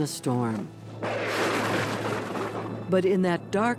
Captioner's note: thunder roars